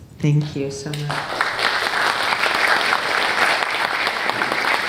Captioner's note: audience clapping